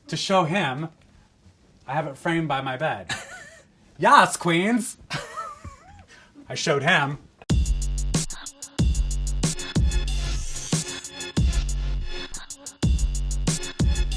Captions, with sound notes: to show him, I have it framed by my bed. [laughs] Yas queens. [laughs] I showed him. [upbeat music]